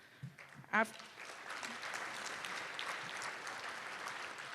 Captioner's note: applause